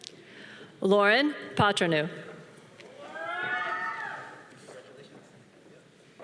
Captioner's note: audience cheering